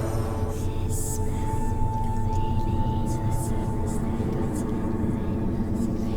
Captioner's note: dramatic music; eerie whispering